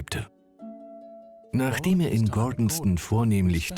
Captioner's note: voiceover